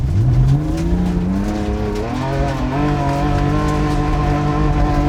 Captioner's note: car revving loudly